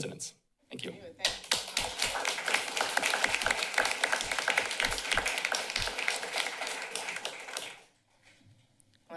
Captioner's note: applause